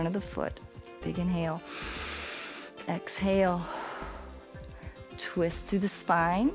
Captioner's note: inhales; exhales